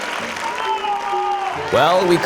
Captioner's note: audience applauding; audience cheering